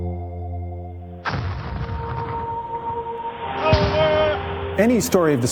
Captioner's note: cannon fire, ships crew commands